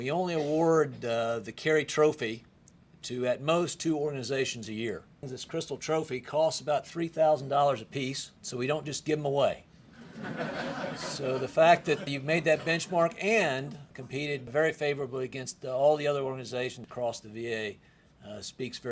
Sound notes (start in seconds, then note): 9.9 laughter